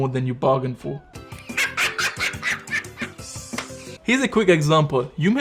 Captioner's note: cheerful music; child laughing